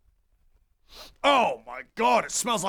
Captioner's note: sniff